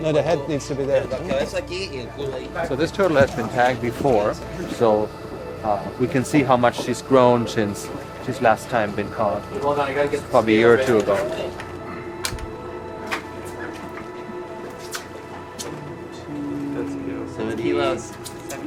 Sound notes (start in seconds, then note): 1.8 speaking Spanish